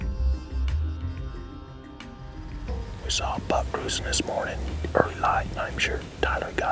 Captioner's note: whispering